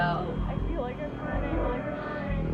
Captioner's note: swirling whooshing & voices continue:"I feel like I'm burning"